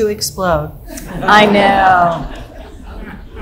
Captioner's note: audience laughing loudly